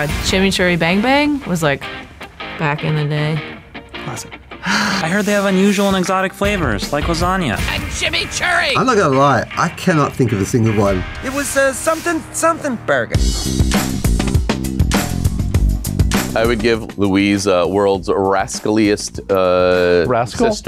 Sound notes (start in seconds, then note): 4.4 laughs